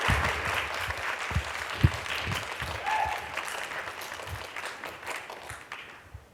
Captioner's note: applause